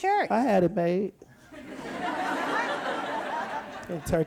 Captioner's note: audience laughs